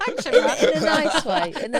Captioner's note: laughter